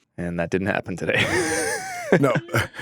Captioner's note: laughing